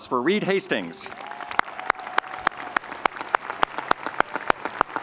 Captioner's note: audience applauding